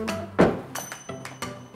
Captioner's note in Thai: เสียงปิดประตู